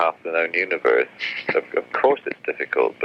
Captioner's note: laughs